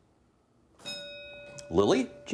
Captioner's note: bell dinging